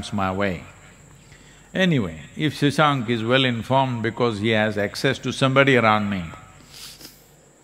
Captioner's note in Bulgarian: Смее се